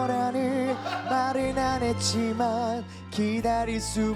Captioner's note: shhh!